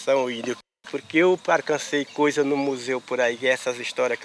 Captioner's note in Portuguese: Canto de pássaros